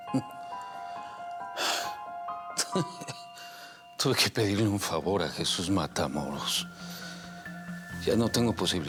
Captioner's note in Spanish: Suspiros